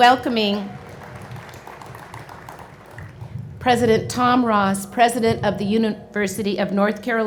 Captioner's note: applause